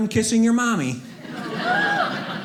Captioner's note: audience laughing